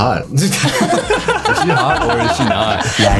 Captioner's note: laughter